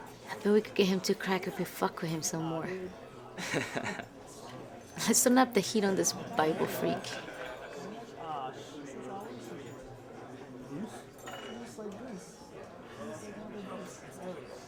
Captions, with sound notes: I bet we could get him to crack if we fuck with him some more. (Dillon laughs) - Let's turn up the heat on this Bible freak.